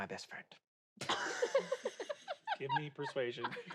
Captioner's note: laugh